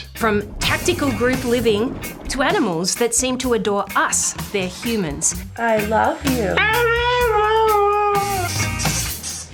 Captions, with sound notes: From tactical group living to animals that seem to adore us - their humans. I love you. (HOWLS) I love you.